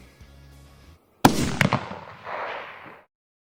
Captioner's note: gunshot